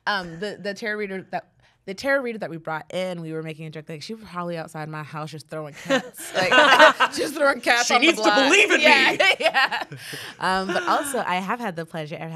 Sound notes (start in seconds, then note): 5.8 everyone laughs; 9.9 laughs